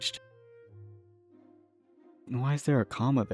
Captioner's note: confused silence